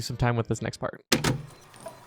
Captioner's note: cassette played noise